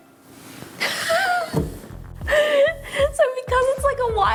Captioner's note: laughing